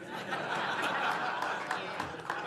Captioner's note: laughter